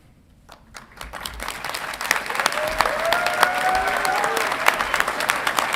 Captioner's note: audience clapping and cheering